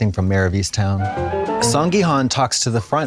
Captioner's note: bright chime